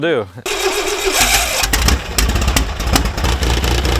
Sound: engine starts

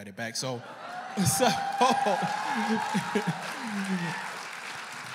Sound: enthusiastic cheering and applause

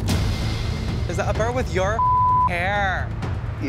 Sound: beep

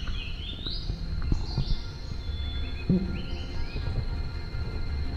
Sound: forest birds singing

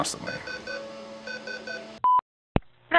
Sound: alarm beeping; phone beeping and clicking

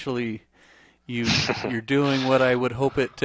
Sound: chuckles

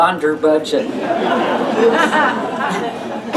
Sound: laughter

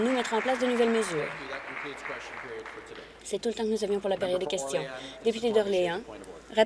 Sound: applause

